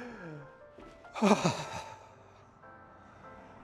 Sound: sigh of depression

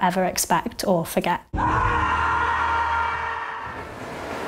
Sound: screams

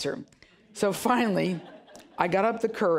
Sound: audience chuckling

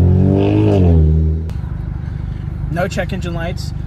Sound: engine revving

